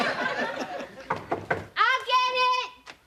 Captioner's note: knocking on door